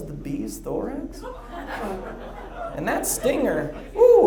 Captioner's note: audience laughs